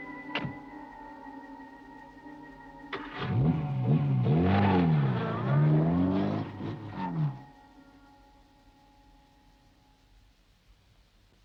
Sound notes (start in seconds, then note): 0.0 car door clicks; 0.3 car door bangs; 2.9 car engine revving